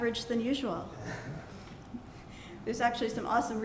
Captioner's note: laughter